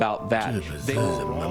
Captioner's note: mumbling